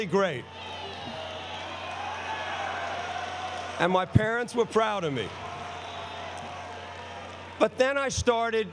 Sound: applause

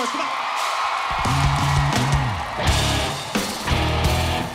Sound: crowd cheering

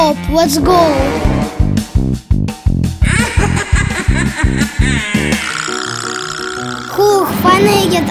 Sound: scary Halloween sounds and music and laugh

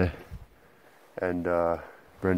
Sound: faint laughing

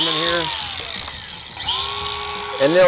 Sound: grinder buzzes

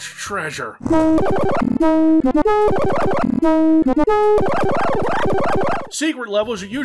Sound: the return of the ear-ripping AdLib sound effects

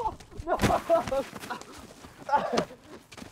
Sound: Miklos groans; boys laugh

